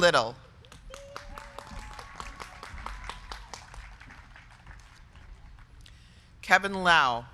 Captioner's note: crowd clapping; crowd cheering